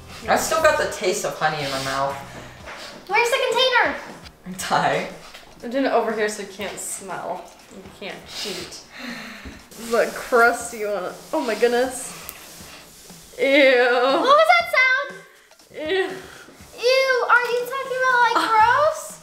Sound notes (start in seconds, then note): 1.6 sniffing; 12.3 sniffing